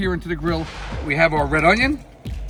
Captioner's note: air whooshing